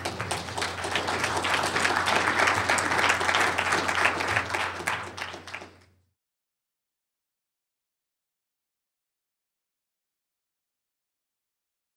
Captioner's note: applause